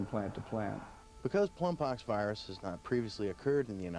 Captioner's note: voiceover